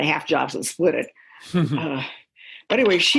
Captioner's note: chuckle